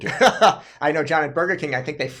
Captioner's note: laughs